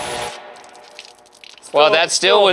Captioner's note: soda splashing